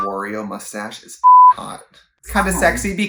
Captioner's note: beep